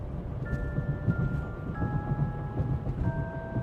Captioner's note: tires thudding